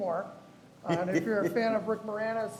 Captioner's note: laughs